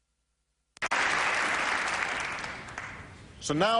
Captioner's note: applause